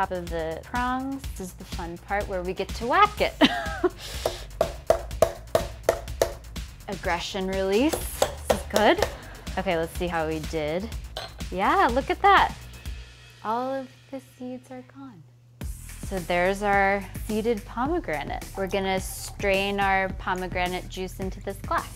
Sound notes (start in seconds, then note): 3.6 laughs; 4.6 knocking; 9.4 audience chuckles